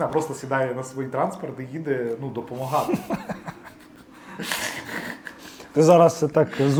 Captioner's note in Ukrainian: сміх